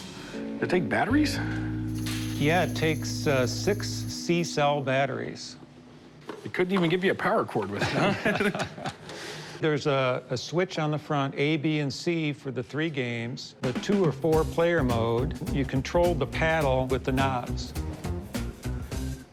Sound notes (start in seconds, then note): 7.7 laughter